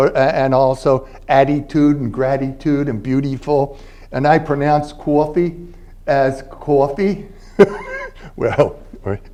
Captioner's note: philly accent